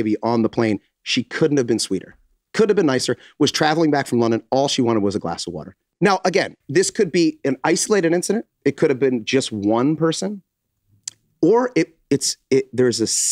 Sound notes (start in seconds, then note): none